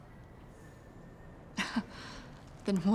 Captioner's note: laughs